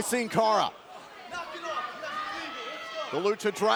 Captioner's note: crowd chatter